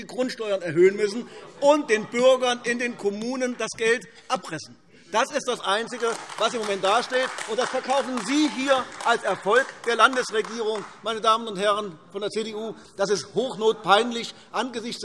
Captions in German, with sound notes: Grundsteuern erhöhen müssen und den Bürgerinnen und Bürgern in den Kommunen das Geld abpressen. Das ist das Einzige, was im Moment gemacht wird; und das verkaufen Sie hier als Erfolg der Landesregierung. [Beifall AfD] Meine Damen und Herren von der CDU, das ist hochnotpeinlich angesichts